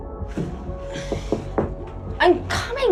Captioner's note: knocking